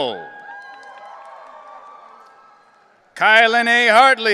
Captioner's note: audience cheering